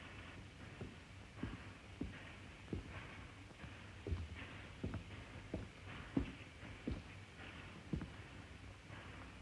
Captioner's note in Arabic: خطوات